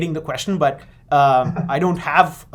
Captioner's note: giggles